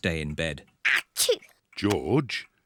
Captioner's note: sneezes